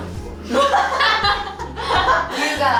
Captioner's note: haha